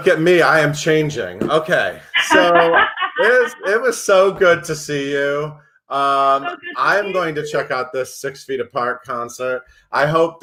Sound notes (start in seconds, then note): 2.1 laughs